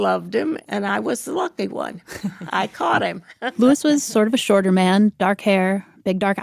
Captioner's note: laughs